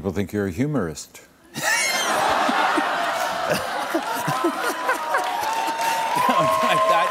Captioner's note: laughter